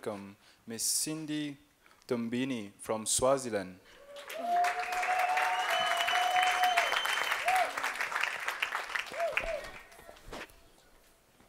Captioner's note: applause